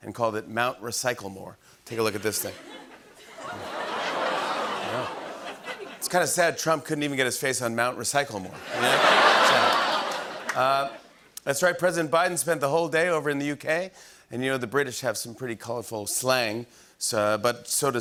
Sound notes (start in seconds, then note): 2.3 laughter